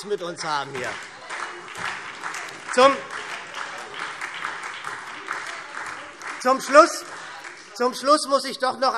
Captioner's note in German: Heiterkeit und Beifall SPD - Zurufe CDU und BÜNDNIS 90/DIE GRÜNEN